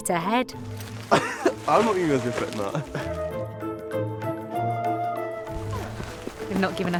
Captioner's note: laughs